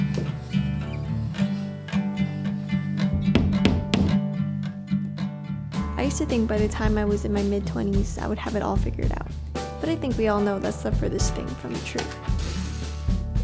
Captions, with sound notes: (relaxed guitar music) (hammer tapping) I used to think by the time I was in my mid 20s, I would have it all figured out. But I think we all know that's the furthest thing from the truth.